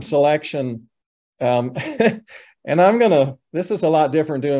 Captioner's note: chuckles